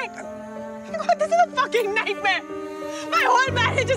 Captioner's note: Crying